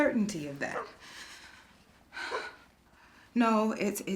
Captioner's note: faint barking outside; inhales shakily